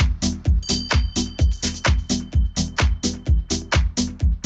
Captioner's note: bell rings